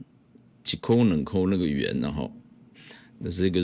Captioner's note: Taiwanese